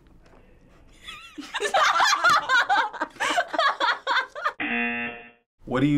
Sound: buzzer; both laugh

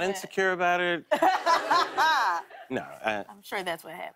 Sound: laughs

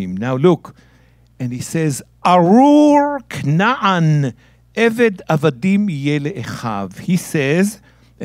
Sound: speaking in Hebrew

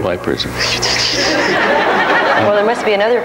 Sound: makes wiping sounds; audience laughs

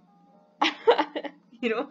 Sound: laughing

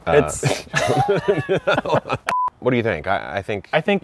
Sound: both laughing

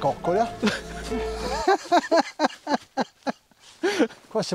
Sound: laughter

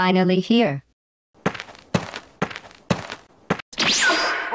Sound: walking noises

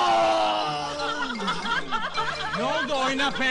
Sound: girls' Laughter

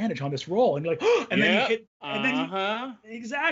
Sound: gasps

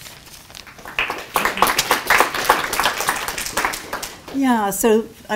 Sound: audience applauds

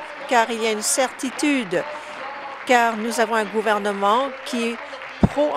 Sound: applause

